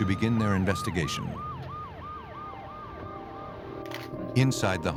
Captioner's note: sirens